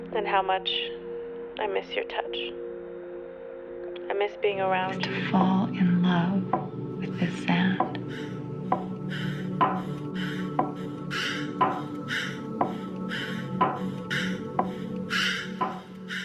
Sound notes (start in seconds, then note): 11.4 woman breathing heavily